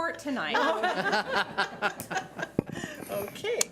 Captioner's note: laughing